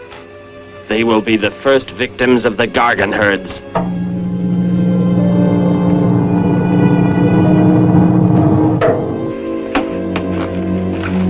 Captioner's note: capsule slides